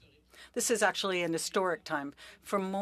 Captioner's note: speaking French